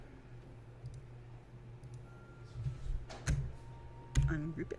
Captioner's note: types and clicks